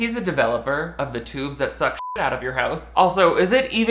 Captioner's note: beep